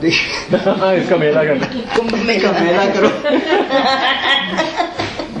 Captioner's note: laughing and saying in Hindi